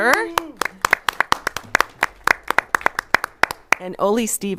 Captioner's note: group applauds